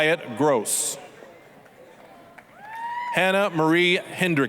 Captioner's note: applause, cheering